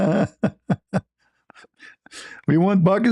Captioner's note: ketawa